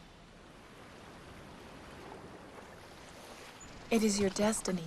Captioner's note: waves lapping